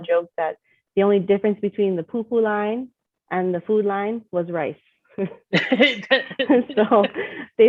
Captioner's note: chef laughs